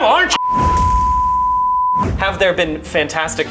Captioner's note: tone beeping